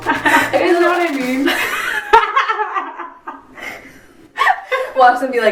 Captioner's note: laugh